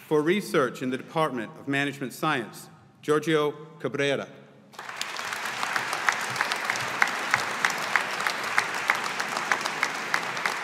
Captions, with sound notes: For research in the Department of Management Science, Giorgio Cabrera. (AUDIENCE APPLAUDING)